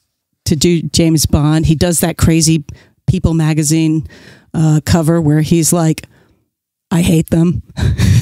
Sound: guffaw

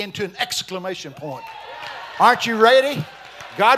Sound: congregation shouting

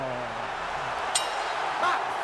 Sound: bell dings

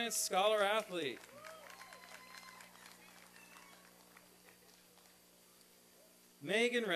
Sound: applause and cheering

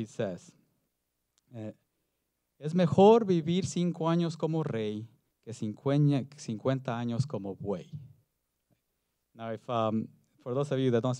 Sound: foreign Language

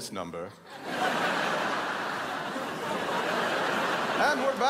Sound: crowd laughs

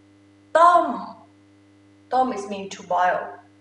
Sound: talking in foreign language

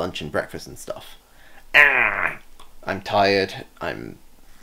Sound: aaaargh

